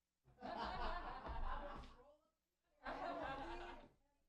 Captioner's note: laughter